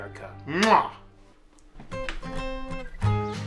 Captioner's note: muah!